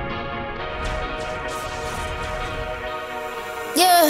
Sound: laser beam firing

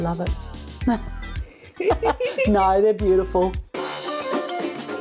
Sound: laughs

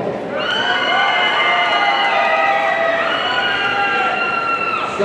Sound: audience cheering

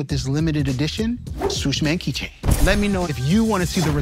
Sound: air whooshes

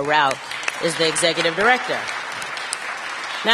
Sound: applause

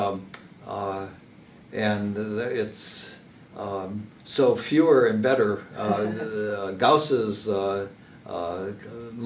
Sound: laugh

